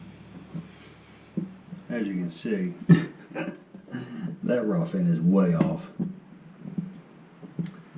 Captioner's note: laughs